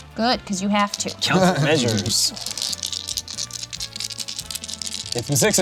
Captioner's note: laughs